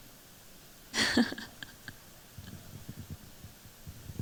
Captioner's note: chuckles